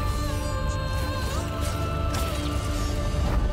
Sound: swords clanging

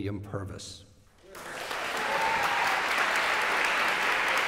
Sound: applause

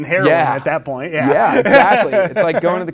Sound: laughs

